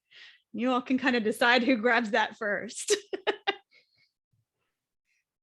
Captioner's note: chuckles